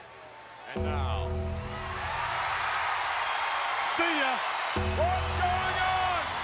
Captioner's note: applause